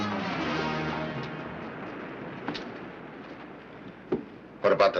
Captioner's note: dramatic music; waves crashing nearby